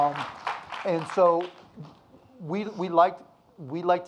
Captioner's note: audience applauding